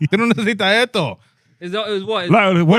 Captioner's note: speaking In Foreign Language